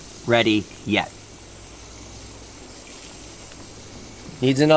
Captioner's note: hissing